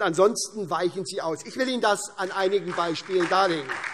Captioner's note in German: Beifall SPD, Freie Demokraten und DIE LINKE